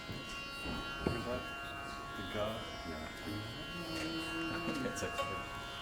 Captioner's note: chatter